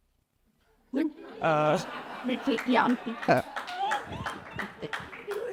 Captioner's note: audience claps and laughs